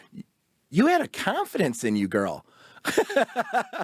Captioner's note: laughs